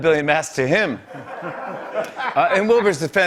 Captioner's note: laughter